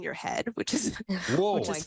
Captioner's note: guffaws